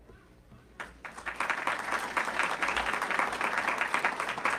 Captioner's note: audience clapping